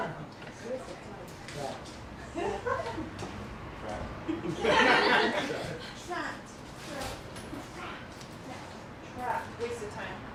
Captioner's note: laughter